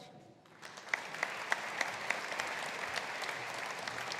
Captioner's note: audience applauding